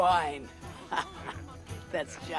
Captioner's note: laughs